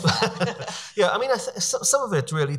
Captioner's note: laughing